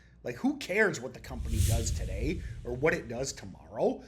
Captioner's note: text whooshing